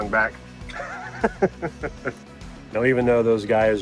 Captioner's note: laughing